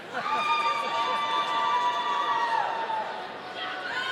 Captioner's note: audience cheering